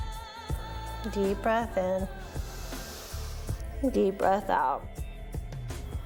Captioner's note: breathes